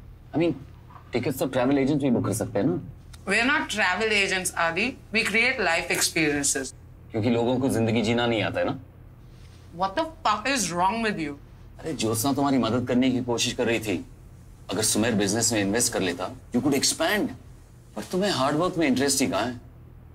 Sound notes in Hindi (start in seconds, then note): none